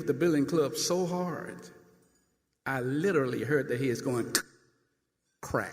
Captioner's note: cracking sound